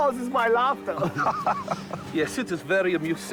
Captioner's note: laughing